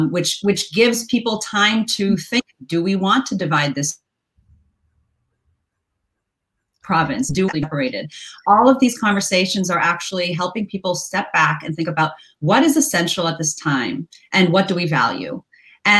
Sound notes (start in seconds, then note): 6.8 audio gets distorted